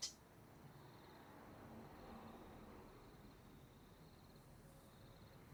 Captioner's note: crickets chirping; cars passing